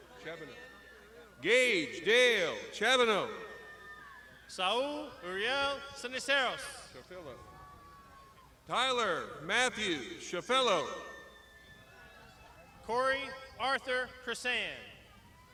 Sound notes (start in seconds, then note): 3.7 crowd shouting